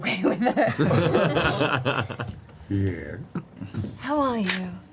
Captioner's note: all laugh